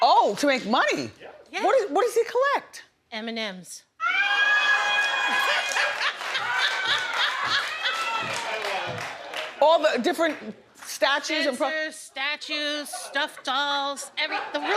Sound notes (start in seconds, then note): 4.0 audience cheering